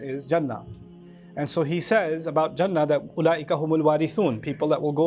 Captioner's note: Arabic